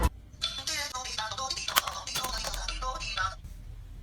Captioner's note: the phone is ringing